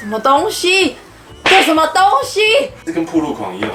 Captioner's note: crash again